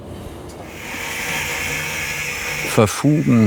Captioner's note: whirring